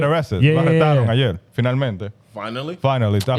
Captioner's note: speaking In Foreign Language